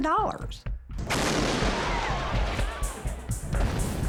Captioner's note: explosion